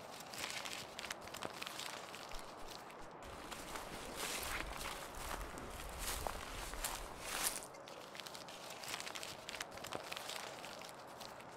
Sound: leaves rustling

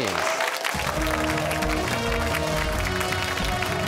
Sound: cheers and applause

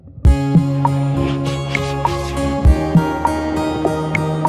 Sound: hose spraying

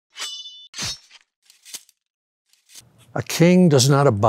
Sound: sword slashing

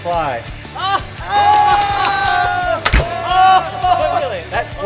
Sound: screaming, yelling

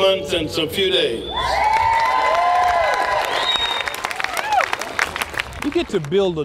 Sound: applause

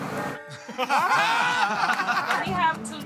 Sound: laughter

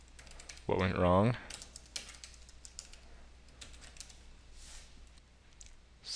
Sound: keyboard Sounds

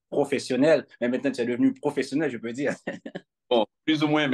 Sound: chuckles

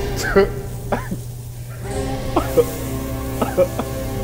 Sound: laugh

